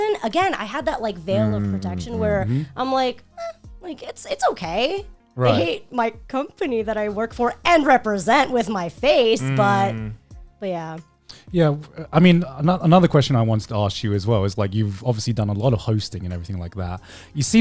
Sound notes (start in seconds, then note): 1.3 guys humming in agreement